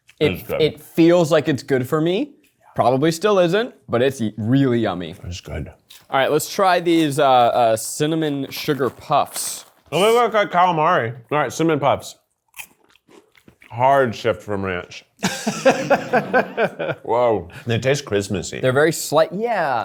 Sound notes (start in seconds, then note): 15.2 laughs